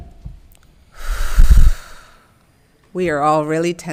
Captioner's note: breathing deeply